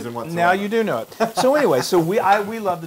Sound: laugh

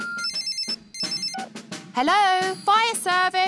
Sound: phone rings

